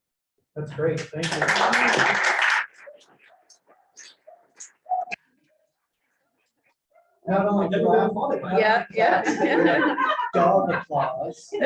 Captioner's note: applause